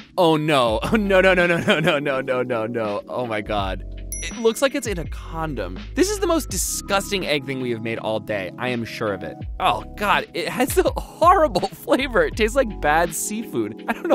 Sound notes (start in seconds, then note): 4.1 dings; 13.9 laughs